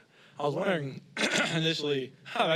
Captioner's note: clears throat